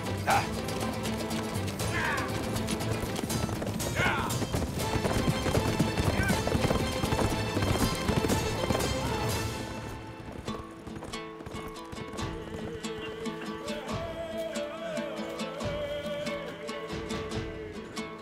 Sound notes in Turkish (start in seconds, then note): 3.9 At nalı sesleri